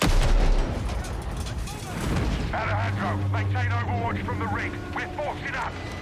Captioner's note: gunshots